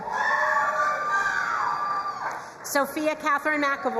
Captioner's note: crowd cheering and applauding